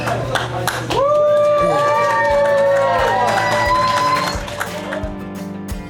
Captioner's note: crowd cheering